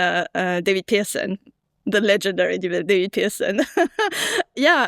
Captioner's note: laughs